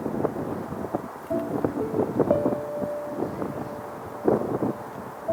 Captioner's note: wind blows; gentle music